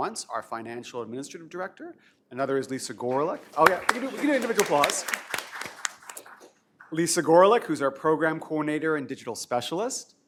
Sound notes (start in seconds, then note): 5.9 applause